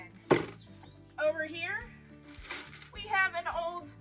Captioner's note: newspaper crinkling